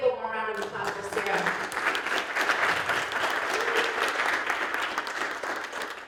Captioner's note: applause